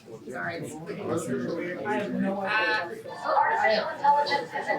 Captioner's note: indistinct chatter